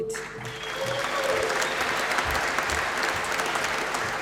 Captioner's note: applause